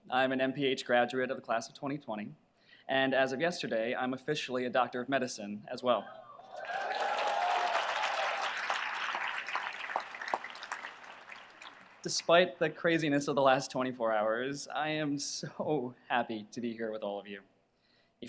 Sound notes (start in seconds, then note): 6.5 audience applauds